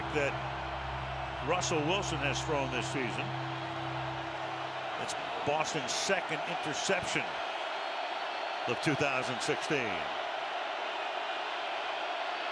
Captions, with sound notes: Fifth pick that Russell Wilson has thrown this season. [cheering] It's Boston's second interception of 2016.